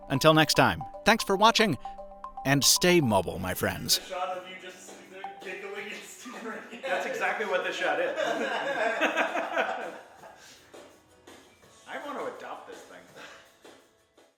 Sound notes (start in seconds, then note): 8.0 laughing